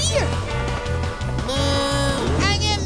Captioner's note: mooing